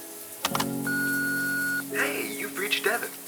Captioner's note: shower water pattering; answering machine beeps